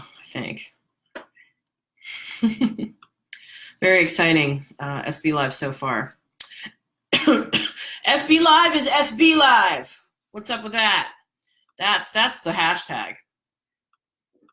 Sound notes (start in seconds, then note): 2.1 laughs; 7.1 coughs